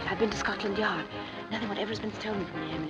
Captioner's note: none